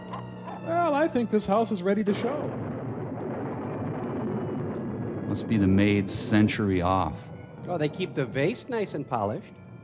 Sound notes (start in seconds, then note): 2.4 thunder rumbles